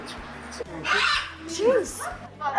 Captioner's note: parrot squawking